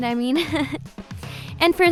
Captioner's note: laughs